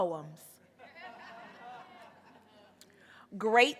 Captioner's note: audience laughing